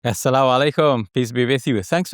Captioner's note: speaks Arabic